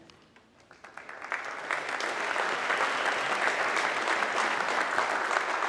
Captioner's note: audience clapping